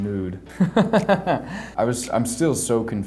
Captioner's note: laughs